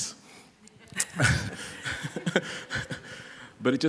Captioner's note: laughter